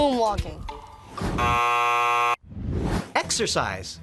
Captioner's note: buzzer ringing